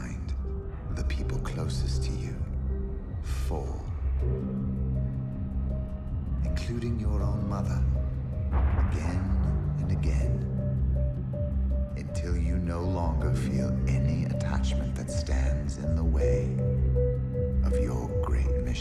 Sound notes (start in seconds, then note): 8.0 gun fires